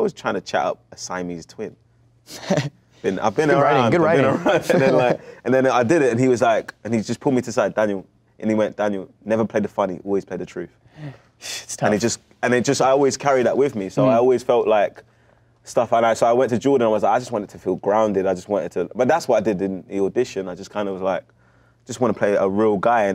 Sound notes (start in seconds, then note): 2.3 laughs